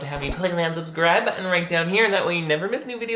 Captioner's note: bell dings